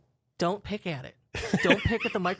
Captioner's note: laughs